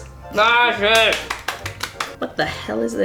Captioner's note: both clapping